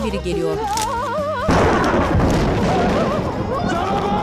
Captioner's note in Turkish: Gök gürültüsü sesi; Bağırma sesleri